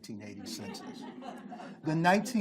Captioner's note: group laughs